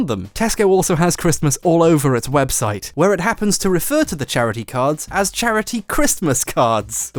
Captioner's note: none